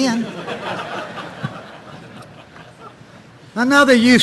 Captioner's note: audience laughing